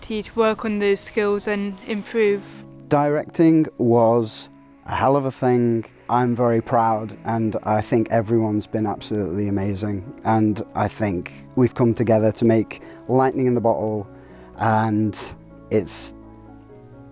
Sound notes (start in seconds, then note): none